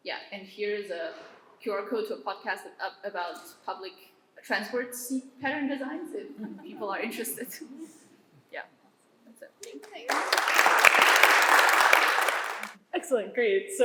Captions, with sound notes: And here is a QR code to a podcast about public transport pattern designs if people are interested. Yeah. That's it. Thank you. [APPLAUSE] Excellent. Great.